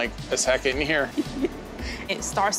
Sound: giggles

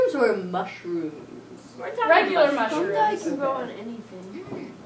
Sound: audience commentary

